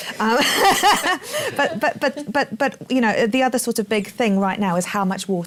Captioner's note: laughs